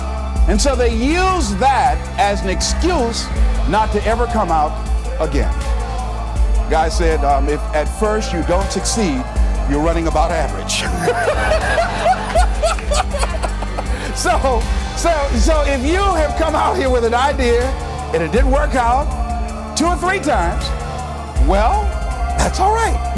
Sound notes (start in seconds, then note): 11.0 chuckle